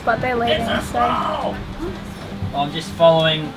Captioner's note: squeals